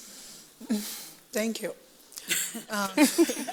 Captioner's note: laughs